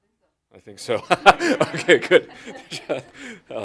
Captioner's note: laughs